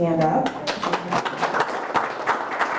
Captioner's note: group Applause